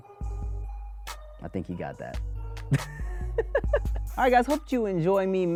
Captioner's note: laughs